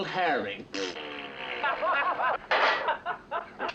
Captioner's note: blowing raspberry; all laughing